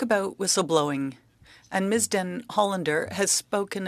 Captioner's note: speaking French